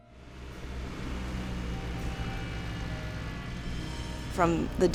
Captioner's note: tractor engine